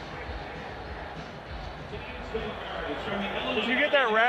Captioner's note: crowd cheering in the background